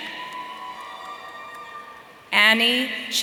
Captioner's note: audience cheering